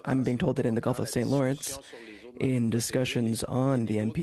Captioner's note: speaking French